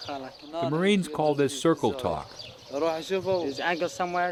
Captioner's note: voiceover